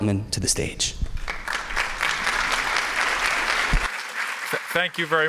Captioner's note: applause